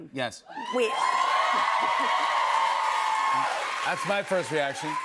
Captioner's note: cheers and applause